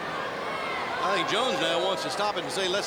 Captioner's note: crowd chatter